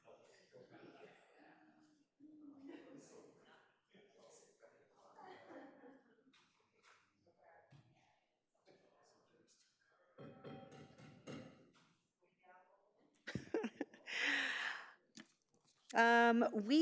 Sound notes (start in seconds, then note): 10.6 gavel thudding; 13.3 chuckling